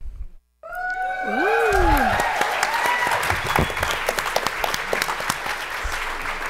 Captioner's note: cheering